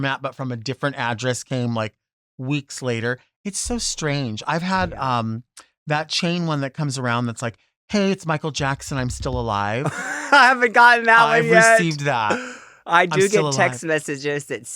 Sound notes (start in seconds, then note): 9.8 laughs